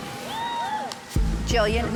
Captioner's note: tense music; faint cheering